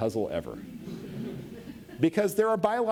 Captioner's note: audience laughs